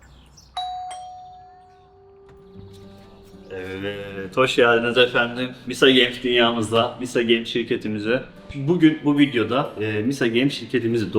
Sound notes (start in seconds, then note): 0.0 bird sounds; 0.6 doorbell